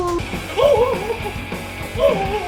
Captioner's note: screaming